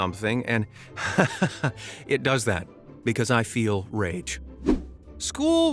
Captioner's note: laughs